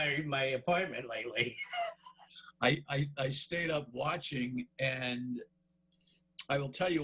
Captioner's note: laughter